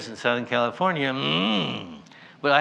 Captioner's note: angry noise